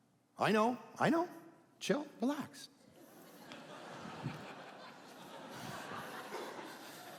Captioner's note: audience laughing